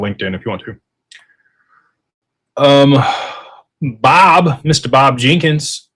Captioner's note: sighs